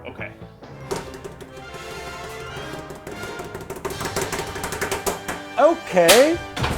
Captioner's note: hands slapping on table; dramatic music